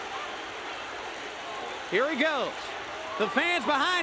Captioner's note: crowd cheering